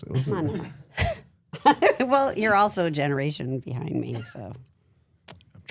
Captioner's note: laughs